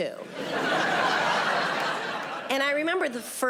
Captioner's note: audience laughing